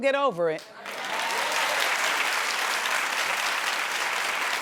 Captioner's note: audience claps